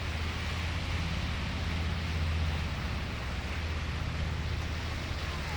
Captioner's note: water rushing